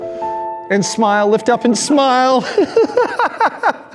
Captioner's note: laughs